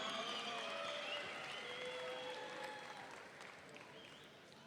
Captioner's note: audience cheering